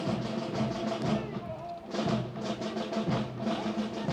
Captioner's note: Officier crie un ordre